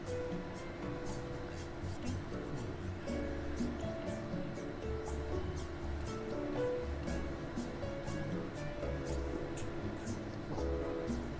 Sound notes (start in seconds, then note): 0.0 humming continues; 1.5 whispering; 3.3 humming continues; 9.3 whispering; 11.2 humming continues